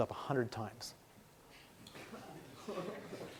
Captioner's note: laughing